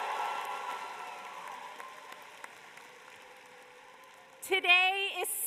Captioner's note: cheers and applause